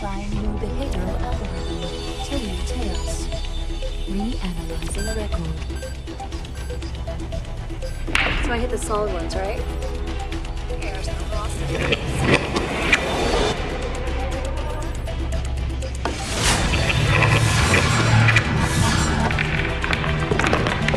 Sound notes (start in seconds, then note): 6.0 tense trance music plays; 12.1 vortex rushes; 19.2 balls rattling